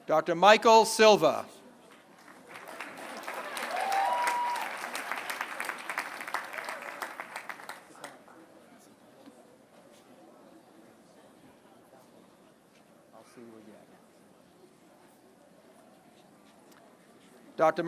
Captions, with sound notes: Dr. Michael Silva. [APPLAUSE]